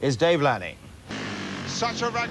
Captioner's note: bikes droning